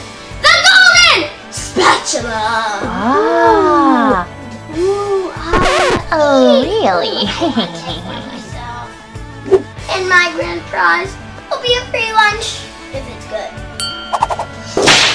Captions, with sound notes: The golden spatula. - [Crowd] Wow! - Oh, really? (evil laugh) - And my grand prize would be a free lunch, if it's good.